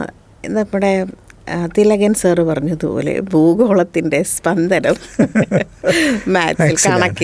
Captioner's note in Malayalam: പൊട്ടിച്ചിരി